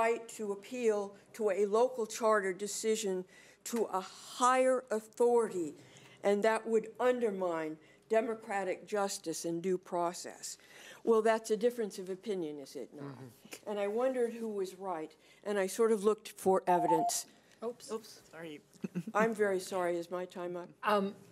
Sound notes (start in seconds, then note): 16.7 beeping